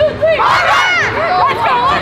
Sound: cheering

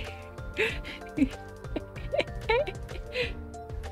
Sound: laughter

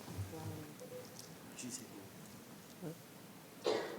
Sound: speaking faintly

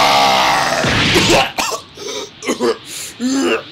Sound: BOJACK gasps in pain

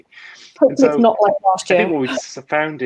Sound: murmurs

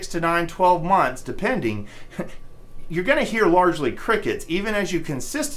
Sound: chuckles

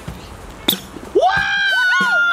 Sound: toy squeaks; yelling and cheering

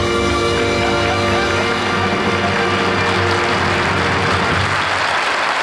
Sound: jazzy music; audience applauding

